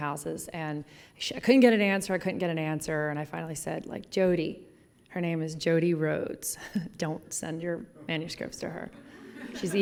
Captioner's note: laughs